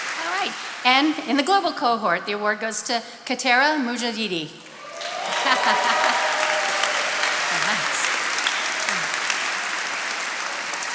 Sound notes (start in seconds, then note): 4.7 attendees cheering and applauding; 5.3 laughing